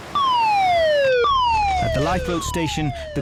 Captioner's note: sirens blare